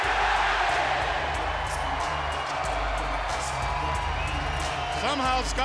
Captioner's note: crowd cheering